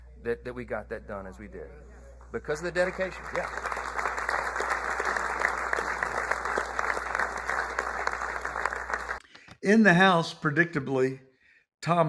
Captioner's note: applause